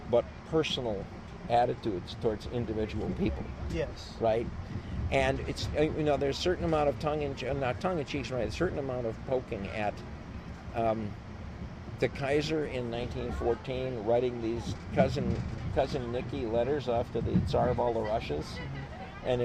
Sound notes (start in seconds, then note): 14.1 laughs